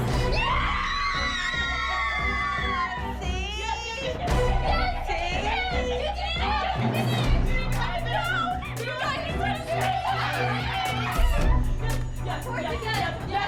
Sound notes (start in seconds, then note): 0.2 girls shrieking; 6.3 girls shrieking, chattering excitedly